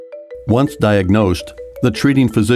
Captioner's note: voiceover